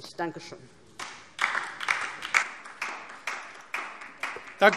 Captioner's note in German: Beifall DIE LINKE